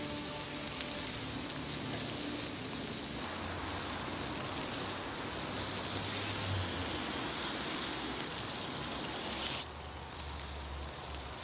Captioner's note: barbecue sound